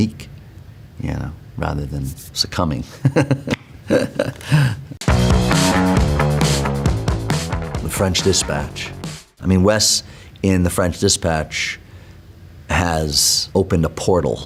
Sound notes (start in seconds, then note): 3.8 laughs; 5.0 upbeat music